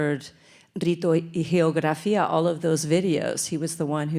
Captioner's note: speaks in Spanish